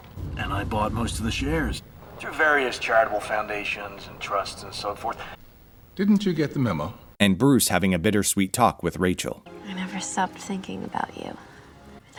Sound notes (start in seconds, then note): none